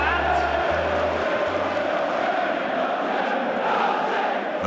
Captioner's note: crowds cheering